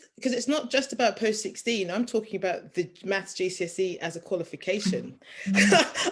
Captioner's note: chuckles